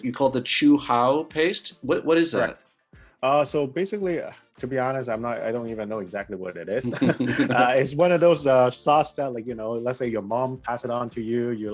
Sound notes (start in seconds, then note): 6.7 laughs